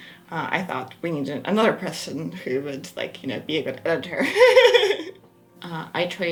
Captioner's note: laughs